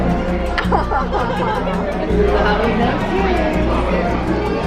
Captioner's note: laughs